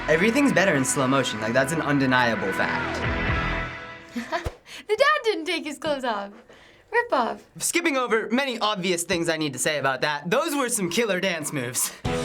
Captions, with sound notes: - Everything's better in slow motion. That's an undeniable fact. - (laughs) The dad didn't take his clothes off. Ripoff! - I'm skipping over many obvious things I need to say about that. Those were some killer dance moves!